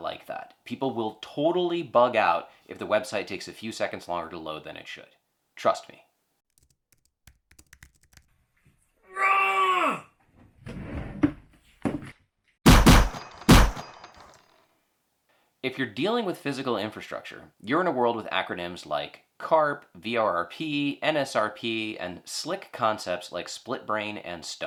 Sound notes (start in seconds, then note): 6.5 typing; 9.0 frustrated scream; 10.4 drawer opening; 12.6 gunfire